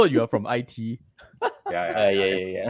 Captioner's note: laughter